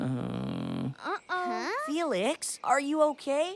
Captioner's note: sobs